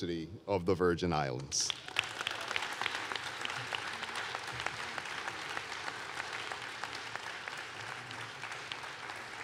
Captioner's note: applause